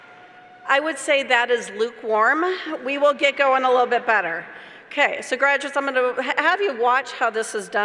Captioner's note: cheers